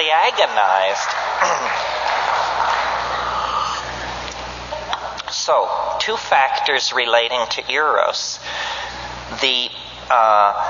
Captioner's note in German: Beifall